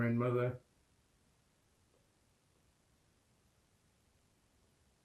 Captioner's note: pauses 8 seconds